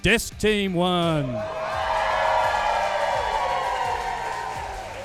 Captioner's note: audience cheering